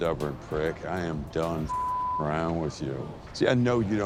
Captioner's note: beep